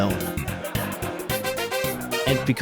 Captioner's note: laughter